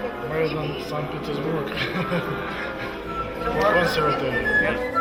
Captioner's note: man speaking in the Russian language; chuckles